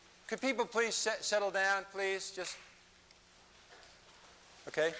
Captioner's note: none